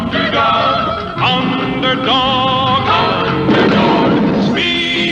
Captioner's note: explosion; lighting Strikes